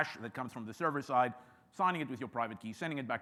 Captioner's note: none